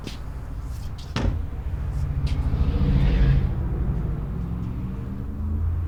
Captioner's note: traffic humming faintly